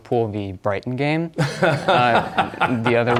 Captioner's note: laughter